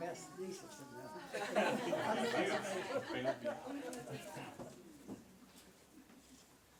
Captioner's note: audience laughter